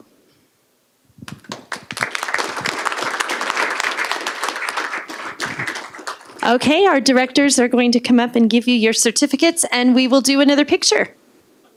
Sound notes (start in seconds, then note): 4.4 applause